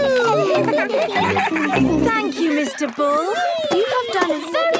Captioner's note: giggling